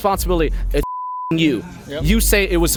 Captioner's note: beep